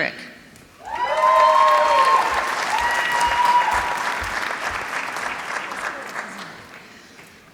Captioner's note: applause